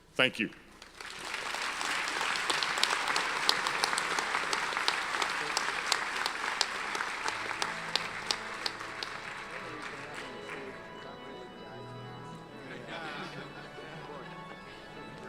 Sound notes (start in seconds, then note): 1.3 audience applauds; 7.6 mid-tempo organ music; 11.1 graduates chatter